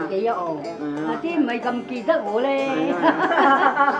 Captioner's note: haha